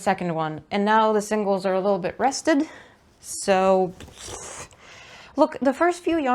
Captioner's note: gremliny exhaly noises